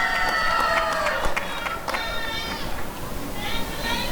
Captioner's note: applause and cheering